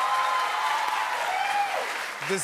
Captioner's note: cheers and applause